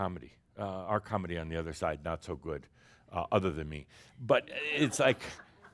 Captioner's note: some chuckles